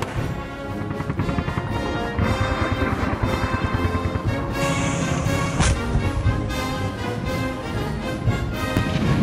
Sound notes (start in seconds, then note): 0.0 helicopter whirring